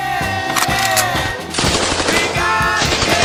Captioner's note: gunfire